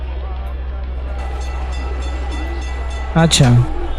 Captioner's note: tram bells